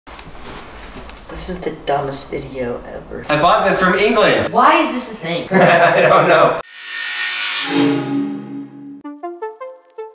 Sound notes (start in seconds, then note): 5.5 giggles; 6.6 electronic music